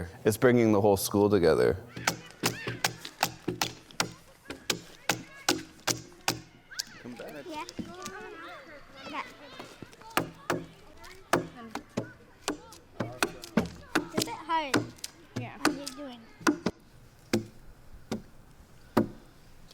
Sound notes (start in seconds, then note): 1.9 tool banging; 2.3 distant children playing; 8.2 children chattering; 10.5 tool banging; 16.4 tool banging